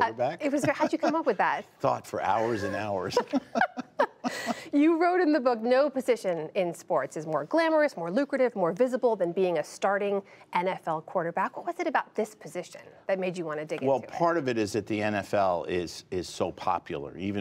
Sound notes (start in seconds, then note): 2.4 laughter